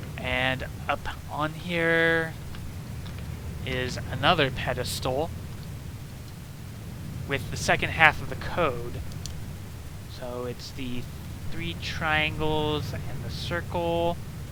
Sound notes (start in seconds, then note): 9.2 pen click